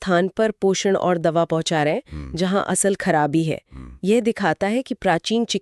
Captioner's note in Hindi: नाक से की जाने वाली आवाज़